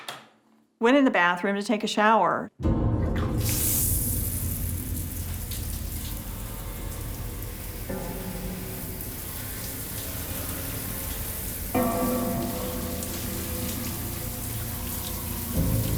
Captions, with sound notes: - I went in the bathroom to take a shower. (splashing) (tense music)